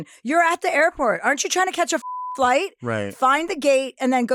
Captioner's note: beep